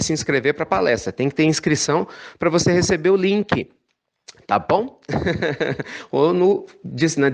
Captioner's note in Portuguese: risos